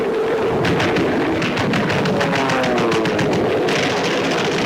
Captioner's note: guns firing rapidly